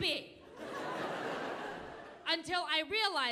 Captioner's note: audience laughing